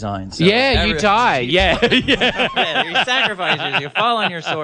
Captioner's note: laughs